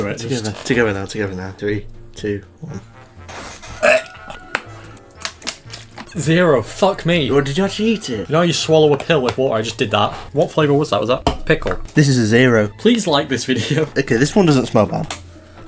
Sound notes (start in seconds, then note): 3.6 gags